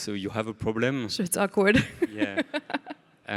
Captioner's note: laughs